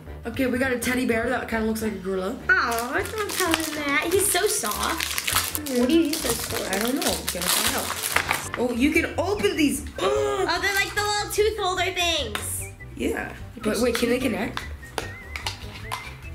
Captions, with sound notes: Okay we got a teddy bear that kinda looks like a gorilla. - Aw, don't tell him that, he's so soft. (plastic crinkling) What do you use those for? - I dunno we're gonna find out. Oh you can open these (grunting). - Oh they're like the little tooth holder things. - Yeah but wait can they connect?